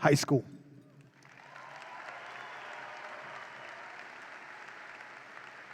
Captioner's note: audience applauds and cheers